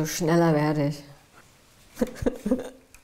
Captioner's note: laughter